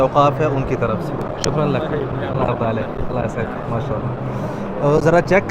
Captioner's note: Arabic